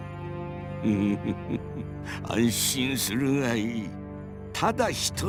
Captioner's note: chuckle